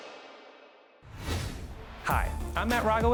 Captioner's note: graphics whooshing